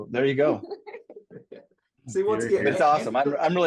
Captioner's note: laugh